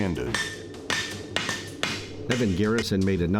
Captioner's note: hammer whacks